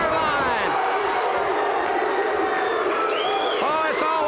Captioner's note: audience barks